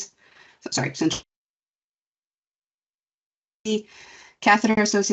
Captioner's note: audio cuts out